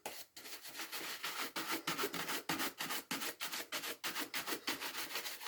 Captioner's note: brush scratching